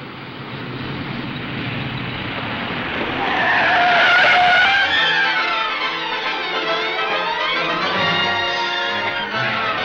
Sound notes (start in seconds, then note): 3.6 tires squeal; 4.6 dramatic music